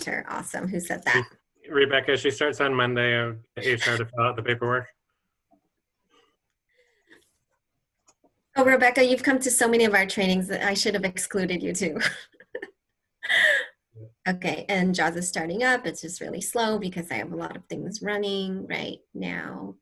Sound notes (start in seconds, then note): 11.9 laughter